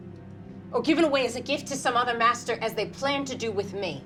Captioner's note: none